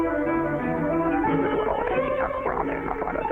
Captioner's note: muttering